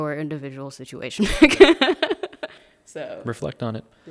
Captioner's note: laughing